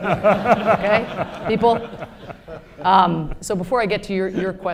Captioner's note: laughter